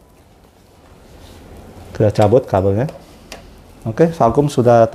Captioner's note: unplugging cable noise